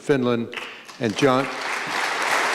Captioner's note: applause